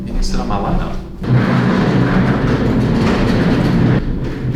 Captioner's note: chair rolling